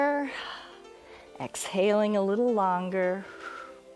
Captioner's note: exhales